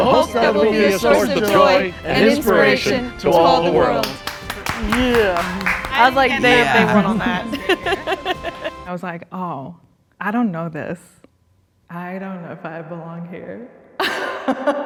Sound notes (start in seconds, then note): 5.2 crew clapping; 8.1 group laughing; 14.0 laughing